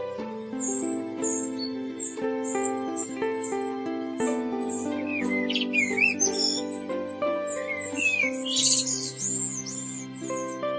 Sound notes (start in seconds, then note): 5.0 blackbird sings